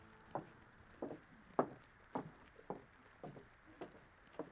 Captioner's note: footsteps clattering